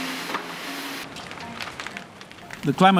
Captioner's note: heavy rains pounding; fire crackling